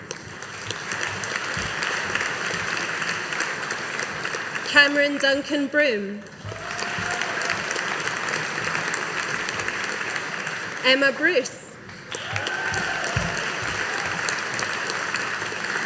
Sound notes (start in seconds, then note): 0.0 audience applauding